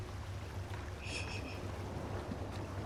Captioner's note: laughs softly